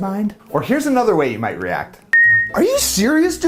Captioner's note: beep